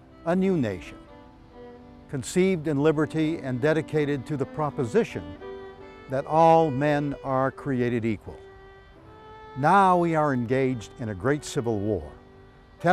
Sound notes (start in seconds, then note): none